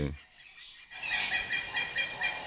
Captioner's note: birds chirping